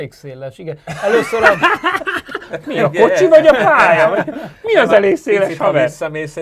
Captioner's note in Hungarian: nevetés